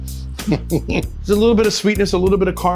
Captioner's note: laughs